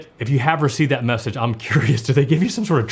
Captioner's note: laughs